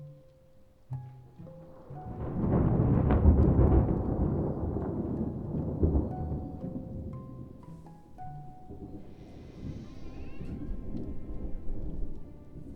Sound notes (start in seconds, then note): 2.5 thunder rumbling; 9.6 door creaking